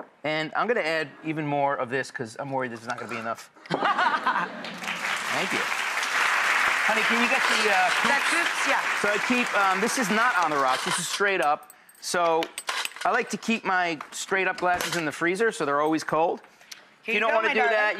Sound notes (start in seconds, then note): 3.7 laughs; 4.5 applauding